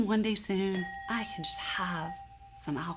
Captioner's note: glass clinking